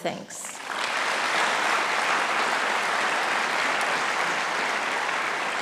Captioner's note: audience applauding